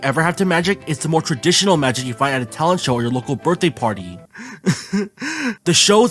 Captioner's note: cries